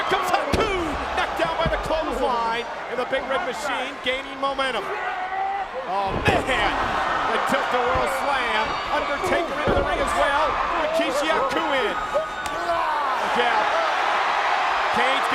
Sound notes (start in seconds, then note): 5.2 Kane shouts; 13.0 audience cheering